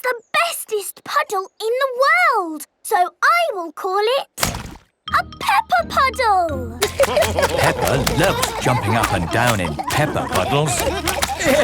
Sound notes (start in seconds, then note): 6.8 laughter